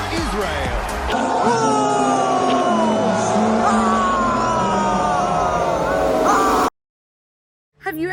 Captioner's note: boos